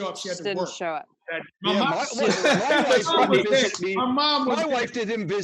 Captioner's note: everyone talking